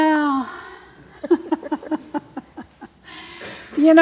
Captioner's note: laughs